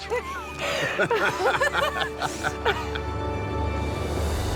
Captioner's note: laughter